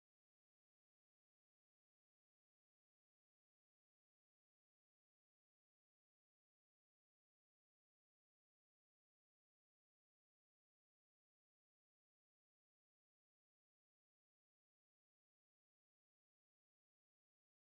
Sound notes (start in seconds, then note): none